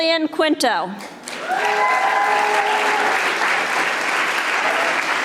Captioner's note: audience applauding